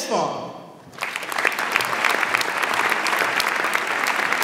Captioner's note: audience applauds